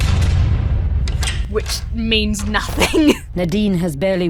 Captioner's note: music stabs; chuckles